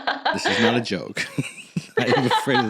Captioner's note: laugh; laughing; laugh; laughing harder